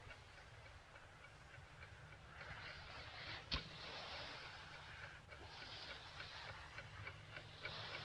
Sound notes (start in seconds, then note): 2.6 air hissing